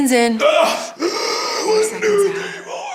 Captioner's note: gasps